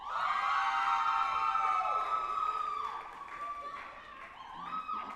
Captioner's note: group applauding and cheering